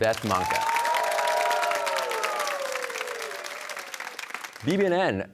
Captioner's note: cheers and applause